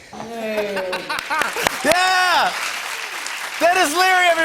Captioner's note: laughs